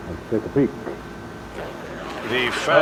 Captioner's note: zips open